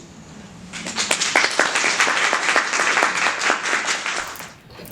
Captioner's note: applause